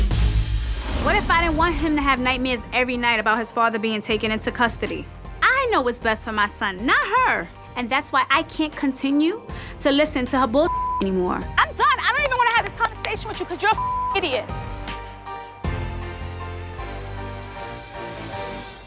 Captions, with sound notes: What if I didn't want him to have nightmares every night about his father being taken into custody? I know what's best for my son, not her. And that's why I can't continue to listen to her bull (beep) anymore. I'm done. I don't even wanna have this conversation with you, 'cause you're a (beep) idiot.